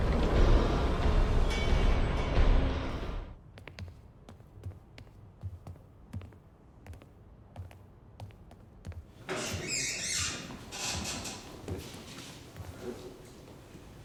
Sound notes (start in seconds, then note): 2.6 tense music continues; 9.2 door creaking